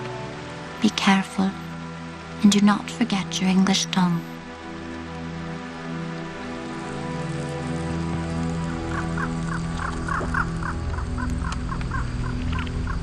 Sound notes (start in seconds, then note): 6.0 solemn music continues; 9.0 frogs croaking